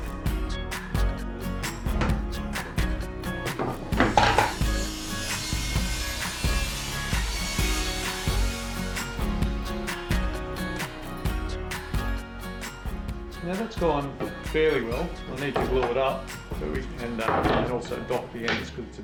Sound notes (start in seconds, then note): 0.4 bright upbeat music; 5.1 machine buzzing